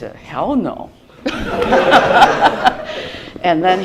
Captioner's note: laughter